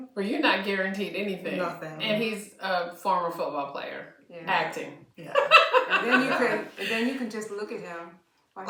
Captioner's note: laughter